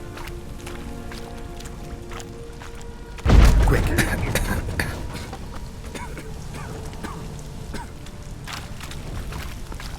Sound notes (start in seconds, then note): 3.2 thunderous boom; 5.9 cough